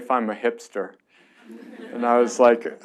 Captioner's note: laughs